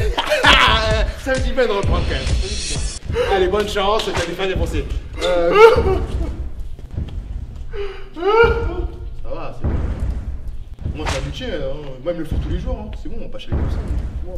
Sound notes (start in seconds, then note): 5.2 crying